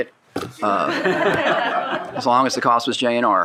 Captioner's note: people laughing